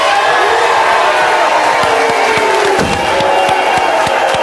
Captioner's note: audience cheering